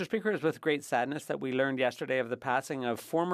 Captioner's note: speaking French